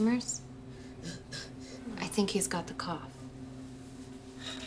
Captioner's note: kid coughing